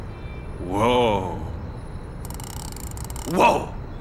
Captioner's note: clicking